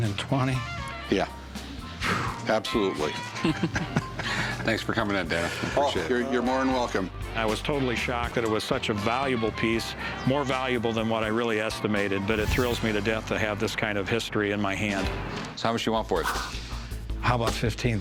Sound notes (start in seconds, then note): 1.8 exhales; 3.2 laughter